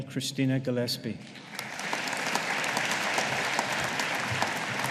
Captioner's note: audience applauding